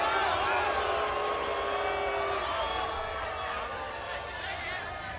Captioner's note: crowd cheering